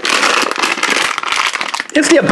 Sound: wrapper crinkling

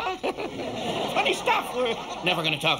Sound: chuckles

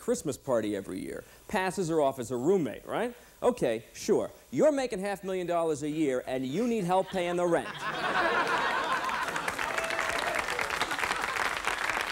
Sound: laughter, applause

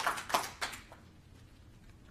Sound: applause

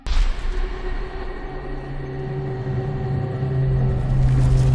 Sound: heavy machinery sounds

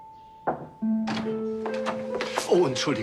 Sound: knock on door

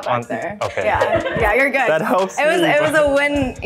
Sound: girls laughing

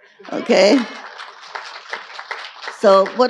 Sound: audience cheering and applauding

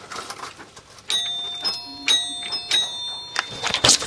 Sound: doorbell

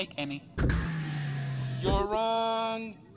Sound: disappointed robot sigh

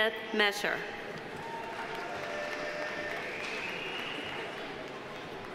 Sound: audience applauding

